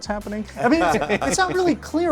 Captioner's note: laughs